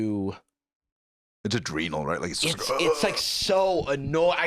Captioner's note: groans